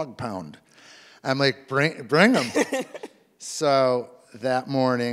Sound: laughs

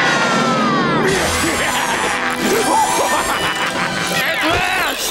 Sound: screaming; evil laughing

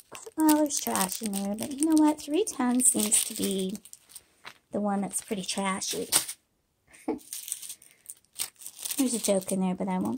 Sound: laughter

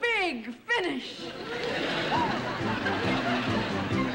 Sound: audience laughing

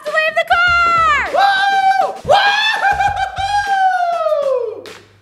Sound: cheering loudly

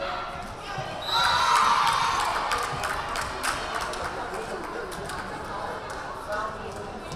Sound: whistle blaring; crowd cheering

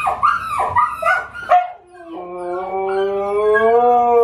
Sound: Memphis starts howling, too

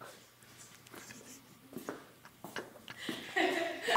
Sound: laughs

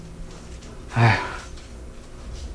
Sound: sigh

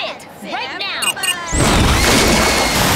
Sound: beeping; screaming

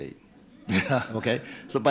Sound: audience laughter

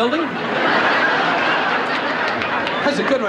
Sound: laughing

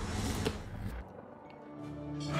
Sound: thudding

